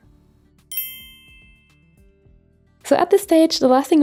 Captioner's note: screen chiming